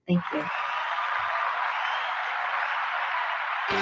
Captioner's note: applause